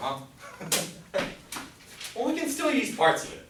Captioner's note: laughs